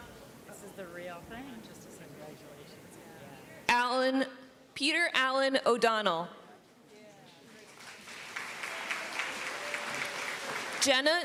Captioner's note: applause